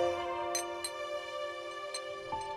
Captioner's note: Spoon clinking